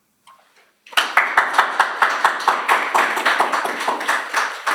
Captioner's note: applause